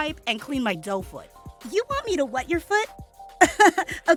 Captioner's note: laughing